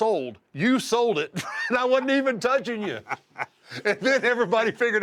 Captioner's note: laugh